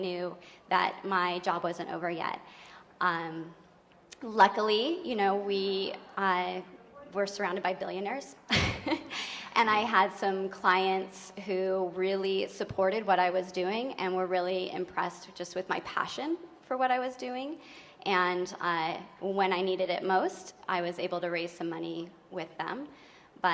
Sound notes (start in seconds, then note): 8.5 chuckles